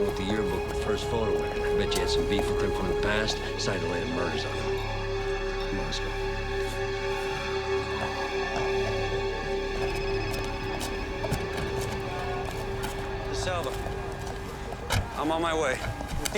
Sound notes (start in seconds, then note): 10.4 phone ringing